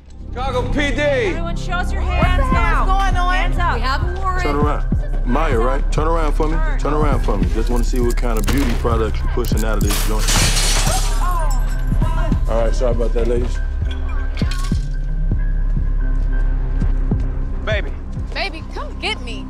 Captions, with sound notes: - Chicago PD! - Everyone show us your hands now. - What the hell is going on? - Hands up, we have a warrant. - Maya, right? Turn around for me. Turn around for me. Just wanna see what kind of beauty products you're pushing out of this joint. [crashes] All right, sorry about that, ladies. - Come on now. [glasses tinkering] - Baby. - Baby, come get me.